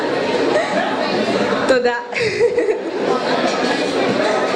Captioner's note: laughs